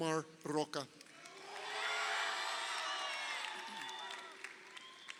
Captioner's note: crowd cheering